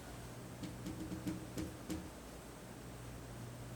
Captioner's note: none